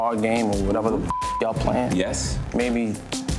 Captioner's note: beep